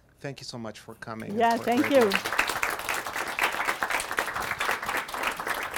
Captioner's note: audience applauding